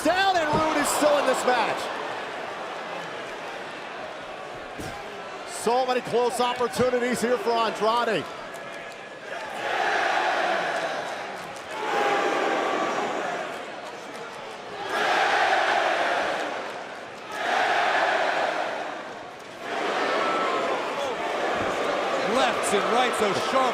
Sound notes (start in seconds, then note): 8.0 crowd cheering